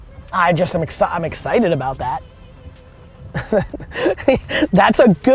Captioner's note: laughs